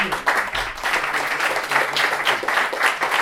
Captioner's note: applause